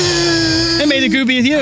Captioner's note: buzzing